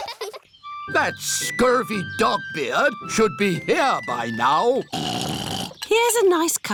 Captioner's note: oinks